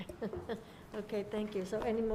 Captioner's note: laughs